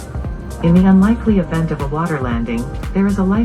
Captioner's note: recorded Voice